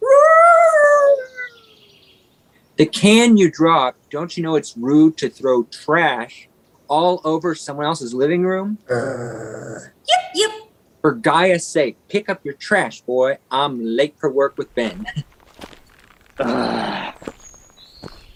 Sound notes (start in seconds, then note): 0.0 Lilith howling; 8.9 growls; 16.3 Munni grunting